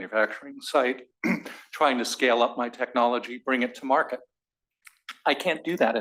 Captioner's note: cough